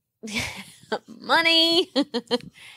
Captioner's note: laughing